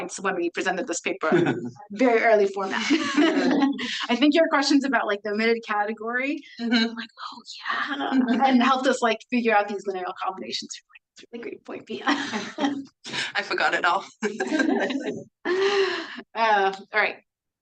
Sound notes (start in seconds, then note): 2.7 everyone laughs; 12.1 laughs; 14.1 laughs; 14.1 everyone laughing